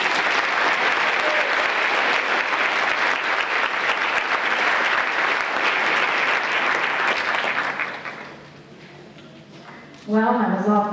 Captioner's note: applause